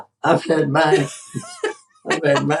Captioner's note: laugh